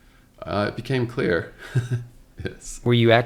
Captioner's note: chuckles